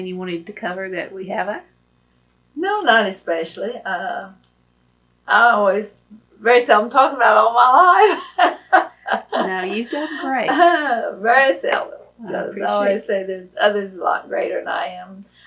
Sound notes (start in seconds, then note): 7.8 laughs